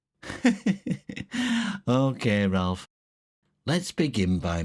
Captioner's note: laughs